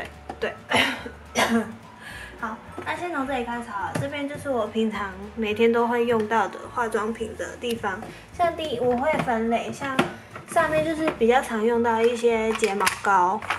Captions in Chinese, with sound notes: 對 （咳嗽） 好 那先從這邊開始好了 這邊就是我平常 每天都會用到的化妝品的地方 像第.. 我會分類 像 上面就是比較常用到的一些 睫毛膏